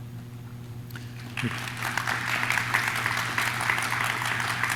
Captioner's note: audience claps